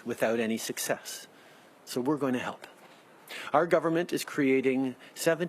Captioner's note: speaking French